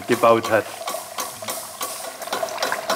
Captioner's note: rattling and hissing